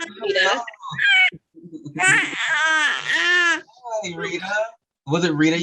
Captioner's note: baby babbles